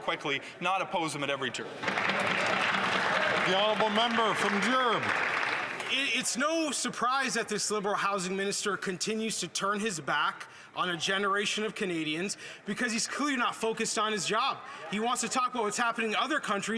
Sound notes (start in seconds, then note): 6.9 some Applause